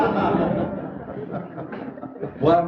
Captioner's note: laughter